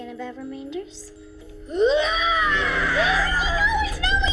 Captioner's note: screams